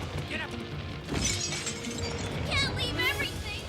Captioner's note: glass shattering